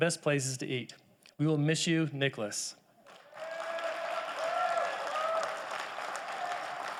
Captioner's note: audience applauding